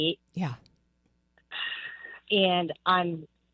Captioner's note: sighs